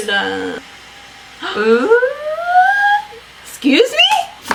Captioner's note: gasps